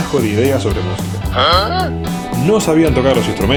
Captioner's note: SOUND: Uh??